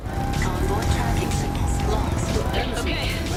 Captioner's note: radio chatters